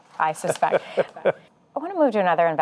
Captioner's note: laughs